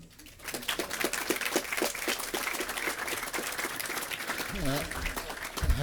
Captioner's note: applause